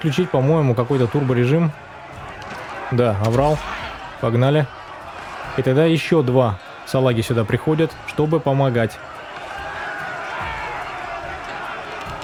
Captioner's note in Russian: ликование